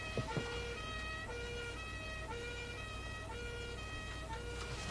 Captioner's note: distant siren wailing